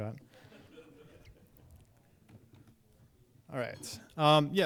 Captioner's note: audience laughing